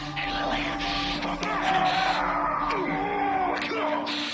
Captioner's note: John screaming